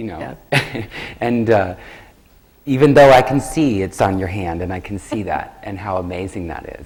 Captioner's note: laughs